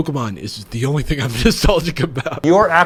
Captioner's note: laughs